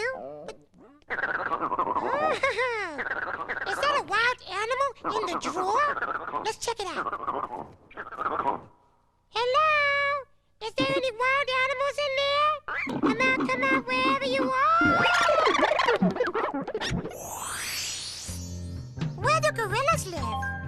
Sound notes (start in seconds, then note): 0.5 panting; 15.8 snorting